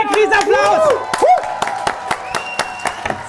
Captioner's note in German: Jubel